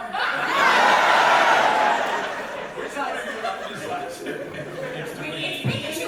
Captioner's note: audience reaction